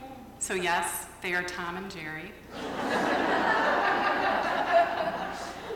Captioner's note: laughter